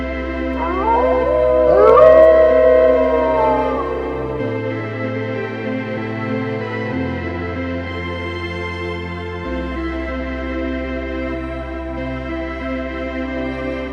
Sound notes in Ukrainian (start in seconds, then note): 0.5 виття вовків